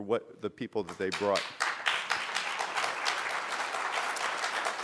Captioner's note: applause